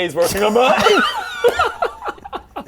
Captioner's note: unrepentant laughter